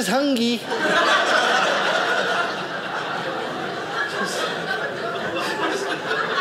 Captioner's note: audience laughing